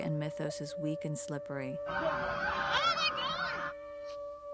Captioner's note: police sirens